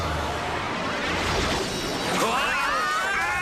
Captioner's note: screaming